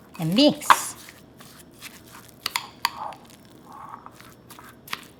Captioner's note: glopping and clinking